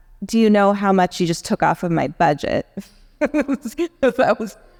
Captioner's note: laughs